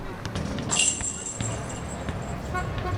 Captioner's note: metal clanking; chains rustling; car horns beeping